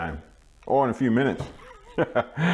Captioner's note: laughing